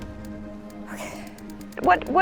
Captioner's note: whispers